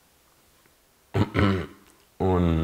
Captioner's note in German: räuspert sich